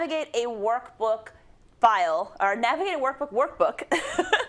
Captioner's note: laugh